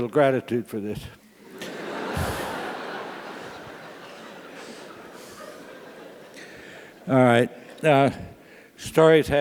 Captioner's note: laugh